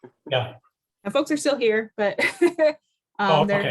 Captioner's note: laughter